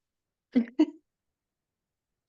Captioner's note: laughs